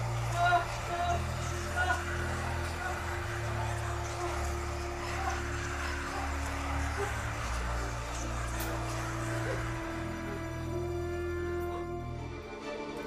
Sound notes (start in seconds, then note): 3.7 Evelyn whimpers; 3.7 deep tense music